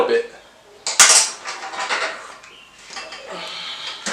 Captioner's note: tool clangs